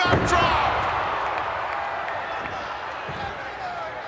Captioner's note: crowd cheering